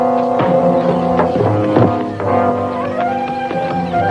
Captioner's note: hammering continues